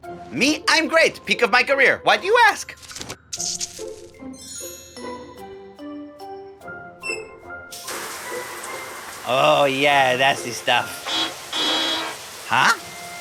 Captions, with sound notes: Me? I'm great. Peak of my career. Why do you ask? [squirt] Oh, yeah, that's the stuff. [honking] Huh?